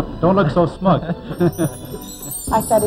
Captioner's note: chuckles